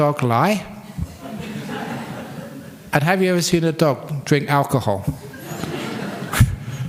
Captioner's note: laughter